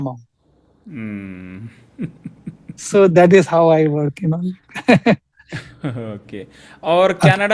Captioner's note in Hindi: हंसी